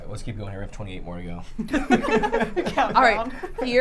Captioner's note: laughs